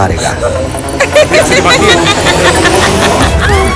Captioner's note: Amma laughing